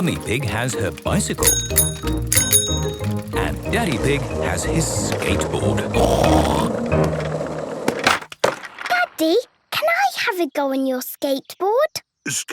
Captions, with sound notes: Mummy Pig has her bicycle. (bicycle bell dinging) And Daddy Pig has his skateboard. (snorts) - Daddy, can I have a go on your skateboard?